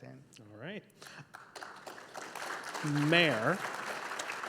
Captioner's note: audience applauding